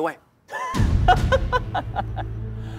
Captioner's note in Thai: เสียงหัวเราะ